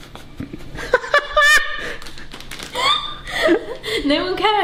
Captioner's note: laughs